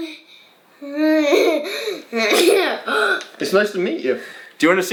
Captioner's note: laughing